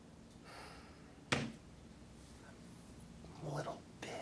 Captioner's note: Randall sighs